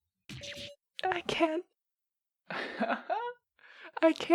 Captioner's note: laughs